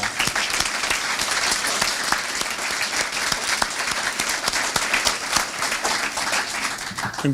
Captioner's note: applause